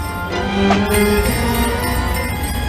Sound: bells chiming

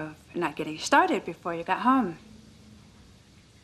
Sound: running of water

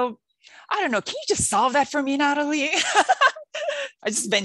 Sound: laughing

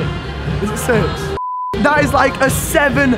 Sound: beep

